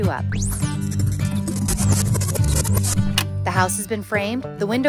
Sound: music rewinds

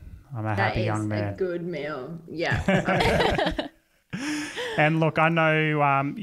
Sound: all laugh

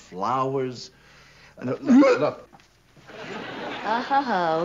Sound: coughs

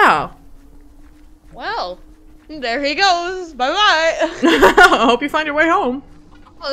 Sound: both laugh

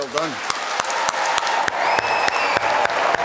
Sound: applause

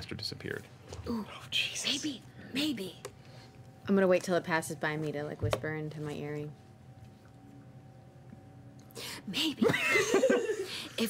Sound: whispering

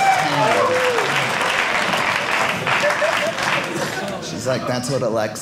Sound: audience laughing

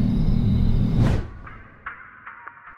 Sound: crickets chirping; ominous humming; whooshing

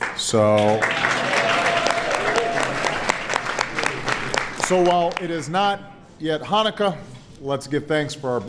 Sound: applause

